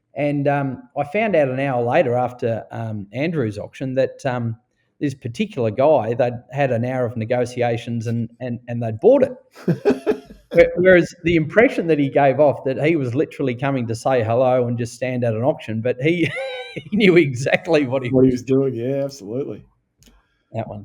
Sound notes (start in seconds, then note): 9.5 laughing